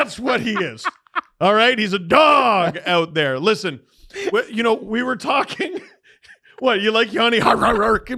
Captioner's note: laughs hysterically